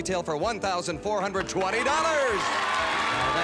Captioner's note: theme music playing; cheers and applause